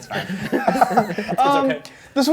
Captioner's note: laughing